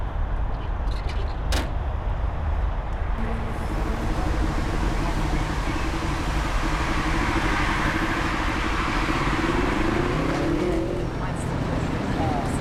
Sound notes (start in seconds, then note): 5.2 Traffic